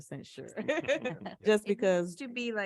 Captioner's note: person laughing